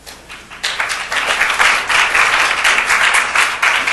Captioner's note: audience applauding